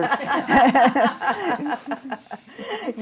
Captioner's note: laughing